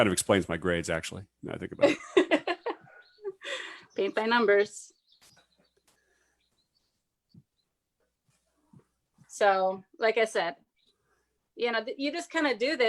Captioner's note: laughs